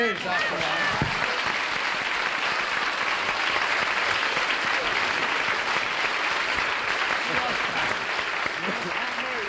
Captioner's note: applause